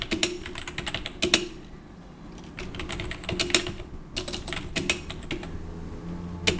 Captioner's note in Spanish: typing